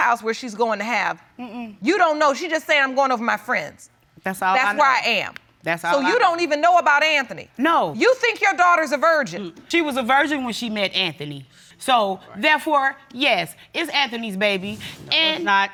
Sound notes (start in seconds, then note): none